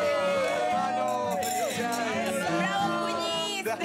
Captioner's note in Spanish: Chocan las copas